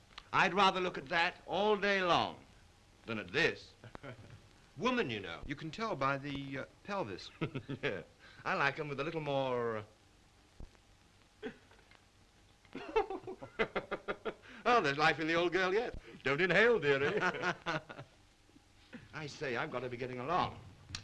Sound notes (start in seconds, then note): 7.3 chuckles; 12.7 men laugh; 16.6 men laugh